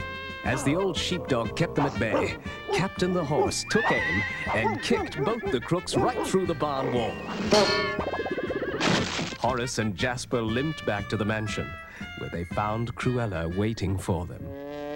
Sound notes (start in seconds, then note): 8.8 crash